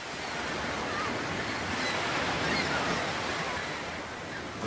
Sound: gulls calling and waves crashing

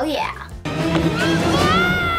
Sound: shouts

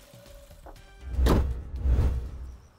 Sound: hood closes

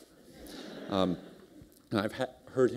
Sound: laughter

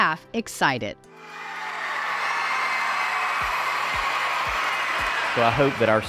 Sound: students cheering and applauding

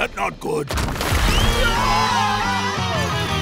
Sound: screaming

